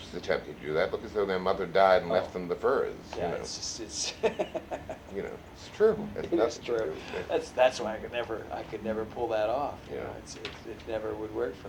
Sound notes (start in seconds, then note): 4.0 laughs